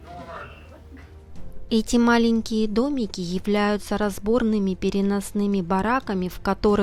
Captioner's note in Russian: закадровый голос